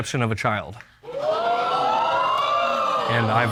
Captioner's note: audience gasping